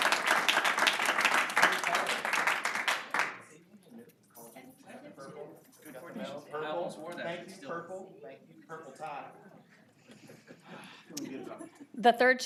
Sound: applause

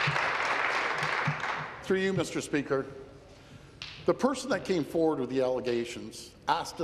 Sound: applause

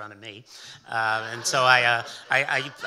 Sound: audience laughing

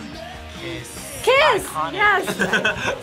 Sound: laughs

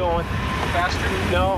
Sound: sounding panicked

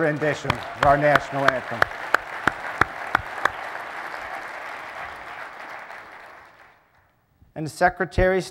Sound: applause

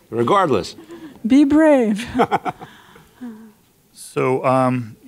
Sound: chuckles; laughs

